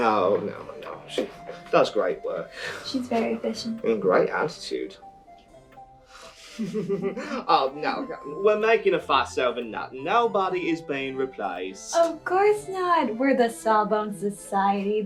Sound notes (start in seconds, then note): 6.3 insincere Laughter